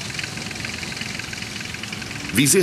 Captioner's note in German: Arbeitsgeräusche